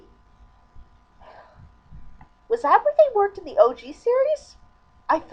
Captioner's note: sighs